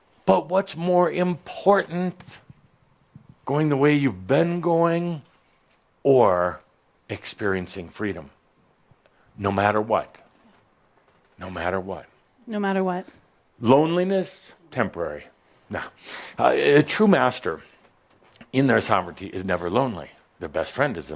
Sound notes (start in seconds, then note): none